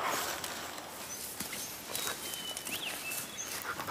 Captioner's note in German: Vogelzwitschern